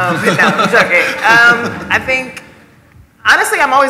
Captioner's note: laughter